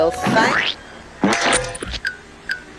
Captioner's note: splat